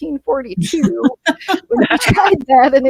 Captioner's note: panelists laughing